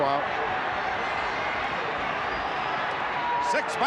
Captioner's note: crowd yelling